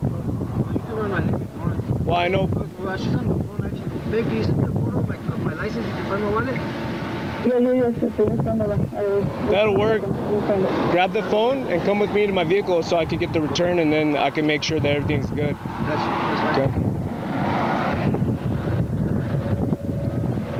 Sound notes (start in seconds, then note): 7.5 woman heard speaking on phone